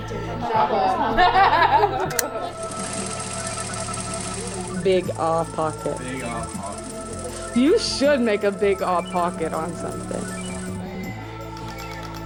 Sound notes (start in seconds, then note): 0.1 laughter